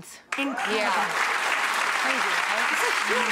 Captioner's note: audience applauds